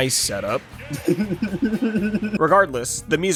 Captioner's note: evil Laugh